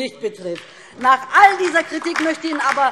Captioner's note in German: Beifall DIE LINKE und vereinzelt SPD